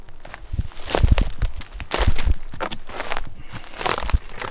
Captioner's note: footsteps